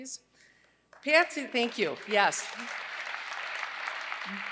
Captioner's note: applause